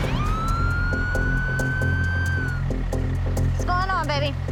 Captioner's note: sirens